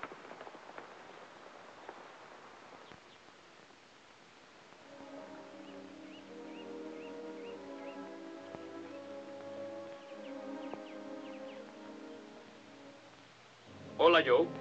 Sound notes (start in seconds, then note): 5.0 gentle music; 8.4 bird chirps